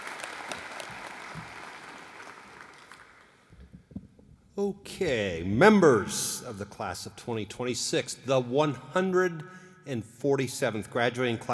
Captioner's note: applause